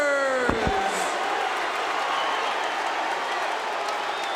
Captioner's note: audience cheering